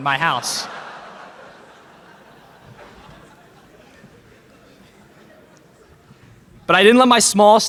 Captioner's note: laughter in crowd